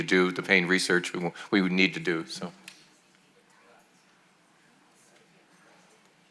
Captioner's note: voices murmuring